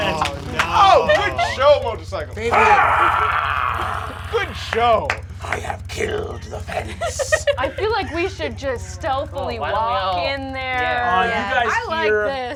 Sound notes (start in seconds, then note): 1.0 yelling; 2.3 wordless yelling